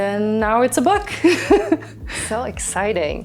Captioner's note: laughing